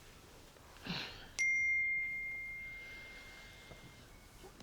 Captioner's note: phone beeps